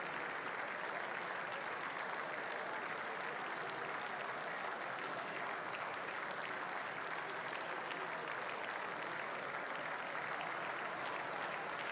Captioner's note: applause